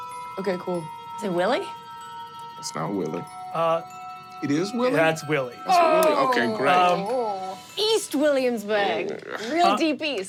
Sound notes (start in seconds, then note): 0.0 mysterious music; 5.7 screams